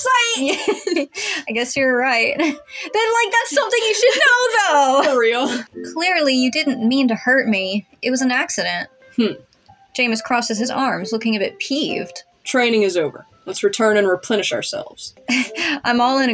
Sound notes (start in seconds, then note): 0.4 giggle; 3.3 laugh; 15.3 chuckle